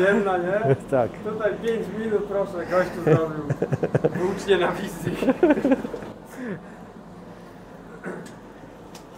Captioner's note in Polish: śmiech